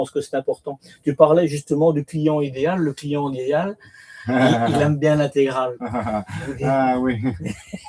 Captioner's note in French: rires